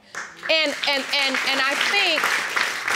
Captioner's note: audience claps